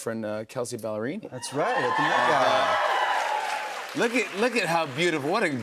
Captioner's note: cheers and applause